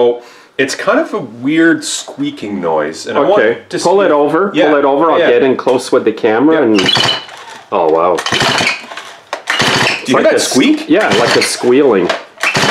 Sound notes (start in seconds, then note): 6.7 squeaking